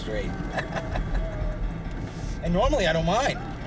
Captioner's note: chuckling